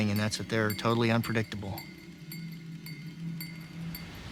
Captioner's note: toy chimes; eerie music